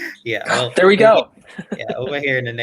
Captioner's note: chuckles